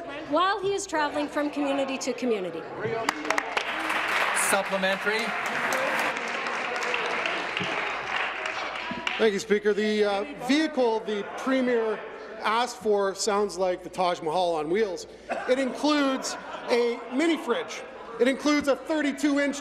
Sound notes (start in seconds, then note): 5.5 applause